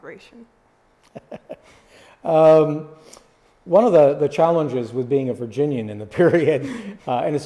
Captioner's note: laughs